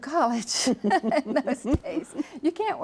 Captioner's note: laughing